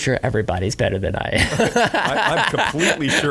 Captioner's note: laughing